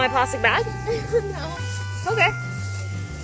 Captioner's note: laughs